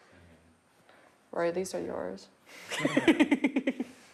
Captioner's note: laughs